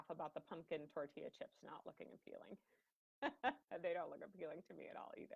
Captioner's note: laughing